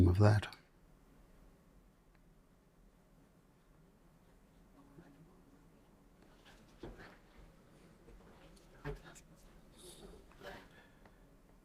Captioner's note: silence